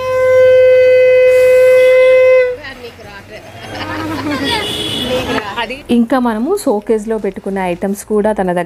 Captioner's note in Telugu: నవ్వు